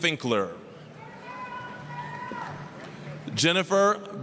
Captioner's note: applause, cheering